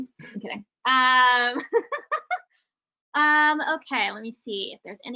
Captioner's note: laughs